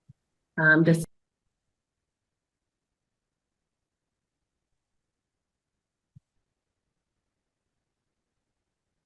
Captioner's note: audio drops